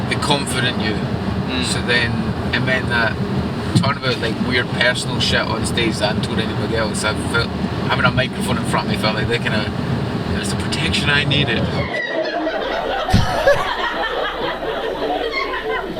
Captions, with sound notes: the confident you. - Mm. - So then it meant that talking about like weird personal shit on stage that I hadn't told anybody else, having a microphone in front of me felt like that kind of, it was the protection I needed. (audience laughing)